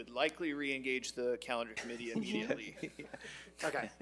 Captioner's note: chuckles